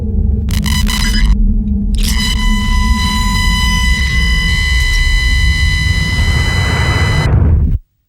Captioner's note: static noises